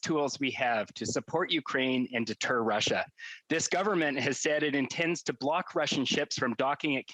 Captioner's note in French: voix de l'interprète